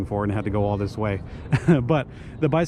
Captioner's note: chuckles